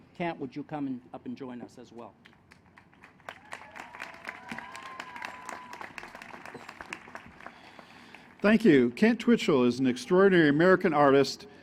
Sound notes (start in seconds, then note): 2.4 applause